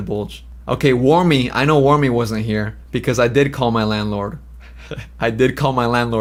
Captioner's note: laughs